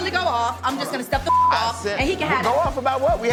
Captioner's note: beep